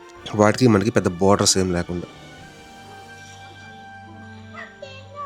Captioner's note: atmospheric sounds